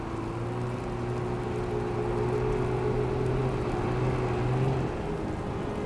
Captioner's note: snow machine engines revving